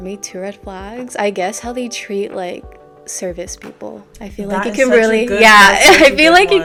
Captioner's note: laughter